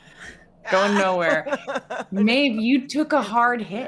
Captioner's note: laughing